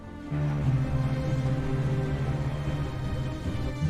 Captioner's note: ship horn bellowing